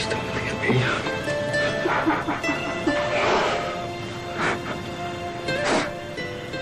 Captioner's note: sobbing